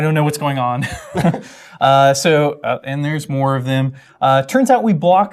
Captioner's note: laugh